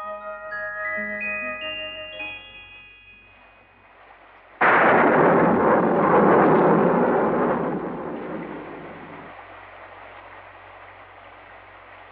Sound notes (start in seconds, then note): 4.4 thunder Rumbling